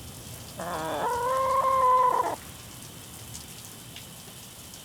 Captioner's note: rooster crowing